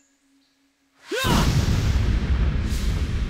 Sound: yelling

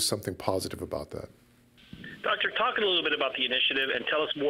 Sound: voiceover

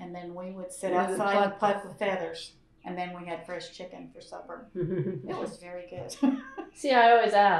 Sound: laughter

